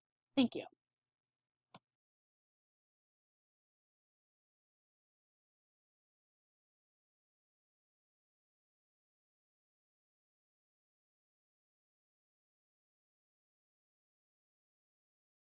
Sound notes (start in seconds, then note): 3.5 silence during presentation transition